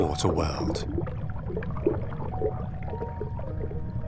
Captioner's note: water sloshes